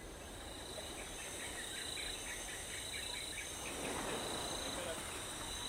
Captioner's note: crickets chirping